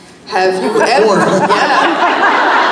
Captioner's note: laughs